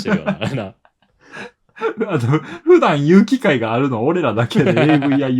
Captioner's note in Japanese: 笑い